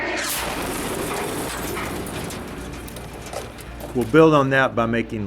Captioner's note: bomb whooshes and explodes